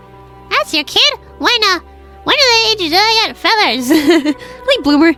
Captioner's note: laughs